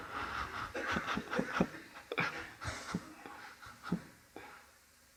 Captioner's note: audience laughs; Eckhart chuckles